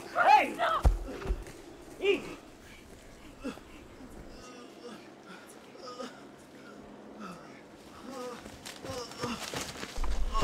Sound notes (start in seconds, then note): 3.2 Ensa moans in pain; 6.9 distant helicopter sounds continue